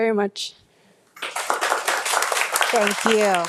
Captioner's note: audience applauding